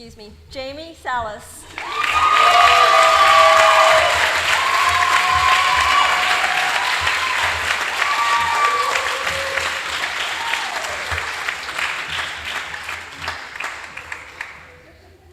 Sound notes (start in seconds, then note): 1.6 applause